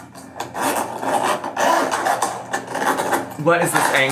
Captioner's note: zipper scratching